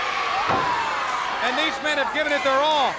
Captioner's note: Ric exclaiming